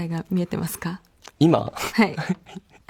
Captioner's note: laughs